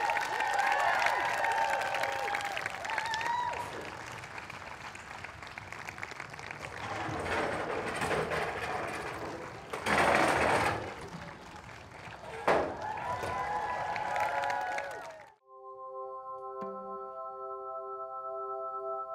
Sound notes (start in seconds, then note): 6.6 doors rattling; 12.9 audience applauds; 12.9 audience cheers; 15.4 slow gentle music